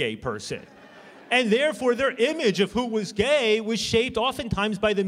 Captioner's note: laughter